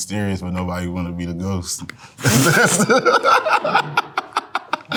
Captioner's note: laughs